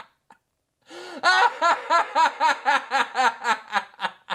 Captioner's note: inhales